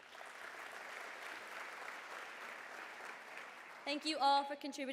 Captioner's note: applause